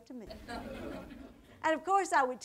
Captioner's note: audience laughter